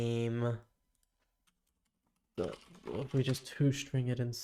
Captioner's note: silence